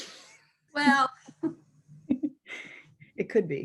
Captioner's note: laughing